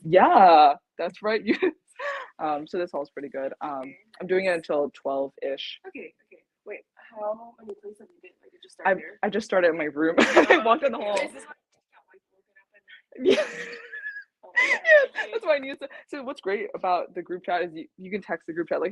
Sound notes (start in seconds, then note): 13.0 laughs